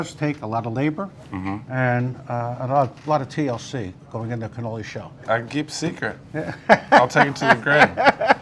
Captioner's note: laughs